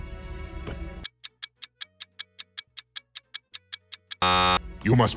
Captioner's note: ticking sounds